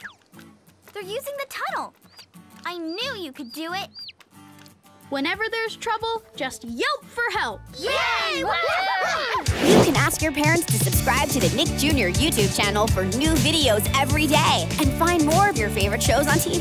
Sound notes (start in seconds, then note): 7.8 cheering